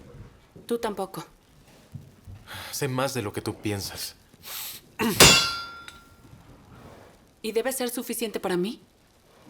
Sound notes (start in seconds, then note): 3.3 hammer bangs